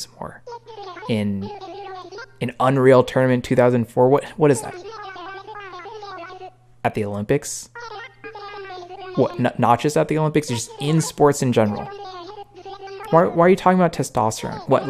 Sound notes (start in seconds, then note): 4.8 "my guy" adds in Animalese; 7.9 "my guy" yaps in Animalese; 11.8 "my guy" elaborates in Animalese